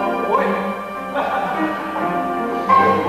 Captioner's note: Kayama laughs playfully